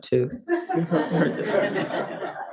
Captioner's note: audience laughs